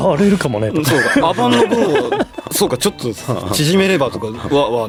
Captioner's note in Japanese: 笑い